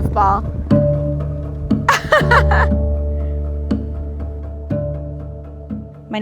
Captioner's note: gentle music; laughing